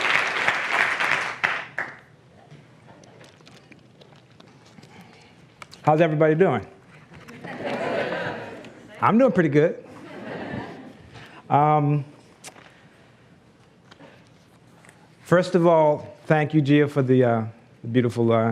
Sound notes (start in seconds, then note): 7.2 laughs